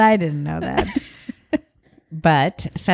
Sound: both laugh

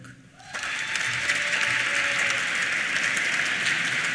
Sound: applause

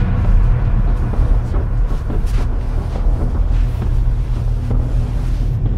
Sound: clattering rumbles

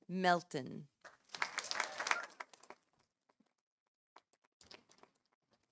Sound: audience applauding

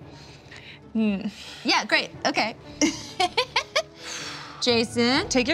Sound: laughs

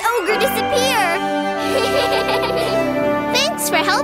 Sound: laughing

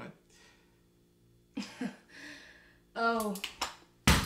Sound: chuckles

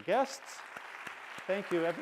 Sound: applause

